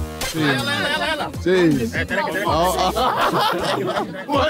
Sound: upbeat dramatic music; crowd chattering

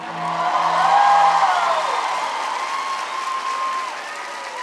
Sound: Gritos y aplausos

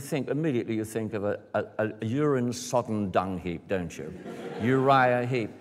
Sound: laughter

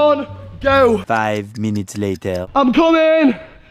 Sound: Spongebob Voice

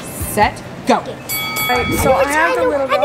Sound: bell rings

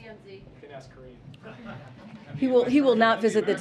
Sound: laughter

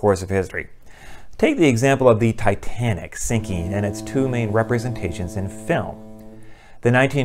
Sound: fog horn

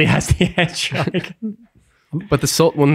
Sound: laughs

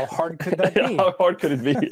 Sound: laughs

